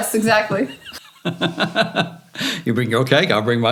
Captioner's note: laughing